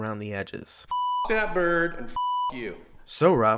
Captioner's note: beep